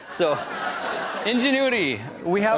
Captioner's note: laughter